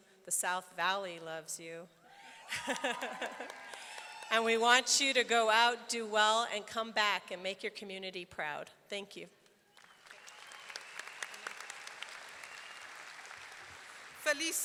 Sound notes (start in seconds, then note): 2.2 audience cheering; 2.5 laughs; 2.6 audience clapping; 9.7 audience clapping; 12.1 audience cheering; 14.5 speaking in foreign language